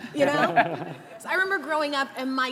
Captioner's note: all giggling